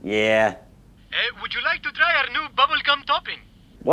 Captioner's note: phone